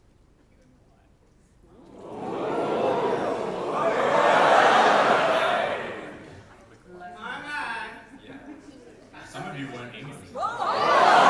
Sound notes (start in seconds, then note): 1.8 audience ooh